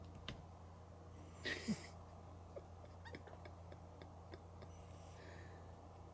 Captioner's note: laughs